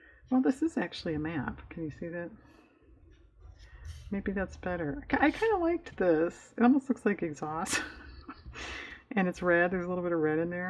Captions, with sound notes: well this is actually a map can you see that? maybe that's better i kind of liked this, it almost looks like exhaust (laughs) and it's red, there's a little bit of red in there